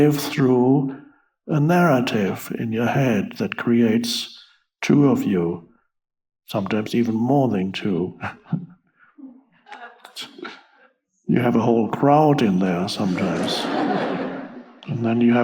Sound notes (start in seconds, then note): 8.1 laughs; 12.4 audience laughs